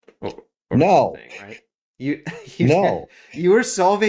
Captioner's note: laugh